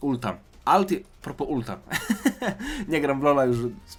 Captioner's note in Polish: śmiech